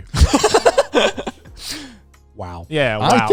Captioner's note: laughs